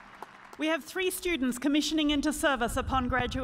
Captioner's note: cheers and applause